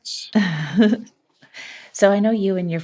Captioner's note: chuckles